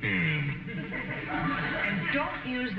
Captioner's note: audience snickering